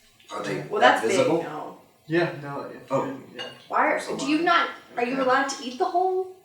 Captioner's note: none